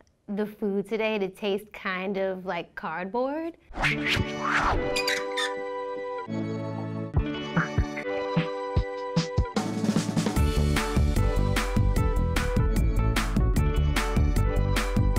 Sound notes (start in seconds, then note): 3.8 swooshing sound; 4.9 squeaking hinge; 5.3 organ music; 8.6 upbeat organ music